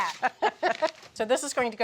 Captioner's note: both laugh